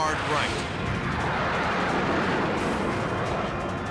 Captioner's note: jet engine noises